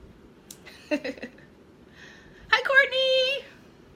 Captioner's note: laughing